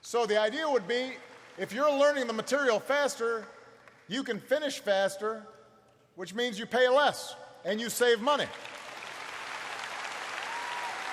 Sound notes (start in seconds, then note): 8.3 applause